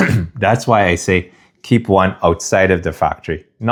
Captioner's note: clears throat